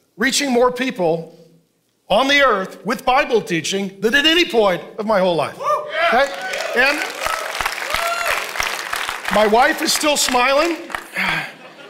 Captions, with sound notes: reaching more people on the Earth with Bible teaching than at any point of my whole life. (congregation cheering) (congregation applauding) My wife is still smiling.